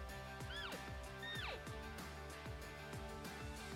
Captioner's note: elk call